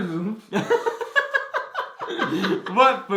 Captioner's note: both laugh